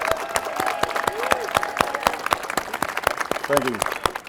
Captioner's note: cheers and applause